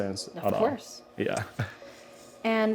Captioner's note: laughs